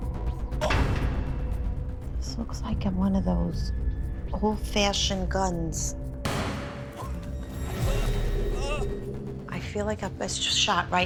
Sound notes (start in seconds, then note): 6.2 gunshot